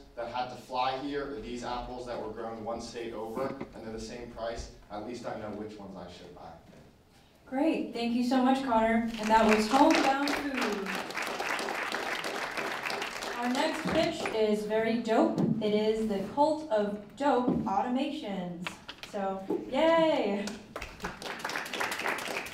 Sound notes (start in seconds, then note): 11.8 applause; 20.4 applause